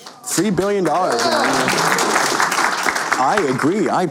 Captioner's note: applause